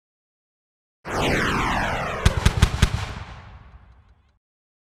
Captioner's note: whooshing